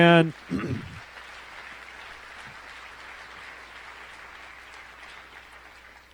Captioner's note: applause